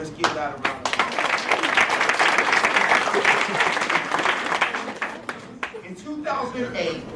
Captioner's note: applause